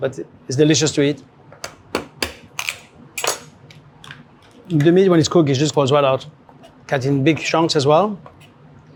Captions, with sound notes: but it's delicious to eat. [shell cracking] The meat when it's cooked it just goes well out, cut it in big chunks as well.